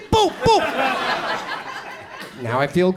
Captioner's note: audience chuckles